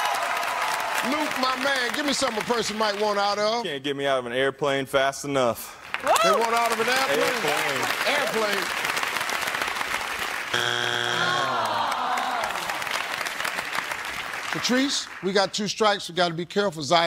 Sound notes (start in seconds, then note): 10.5 buzzer